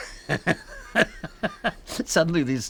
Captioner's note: laughs